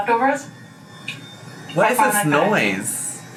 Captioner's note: something whirring